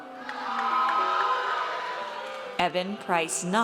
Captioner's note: audience cheers